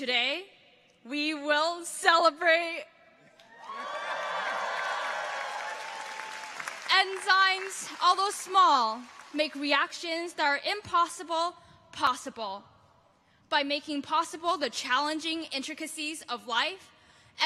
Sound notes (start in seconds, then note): 3.5 audience cheers; 3.6 audience applauds